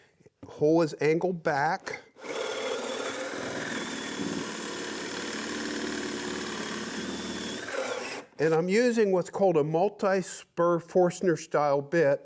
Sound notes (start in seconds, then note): 2.1 drilling